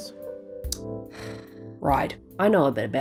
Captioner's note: sigh